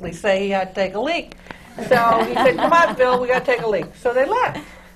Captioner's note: laughter